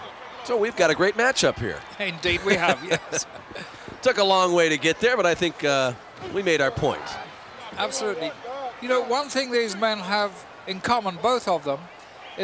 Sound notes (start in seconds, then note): 0.6 laugh